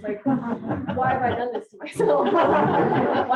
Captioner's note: audience laughter